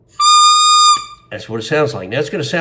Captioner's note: long squeak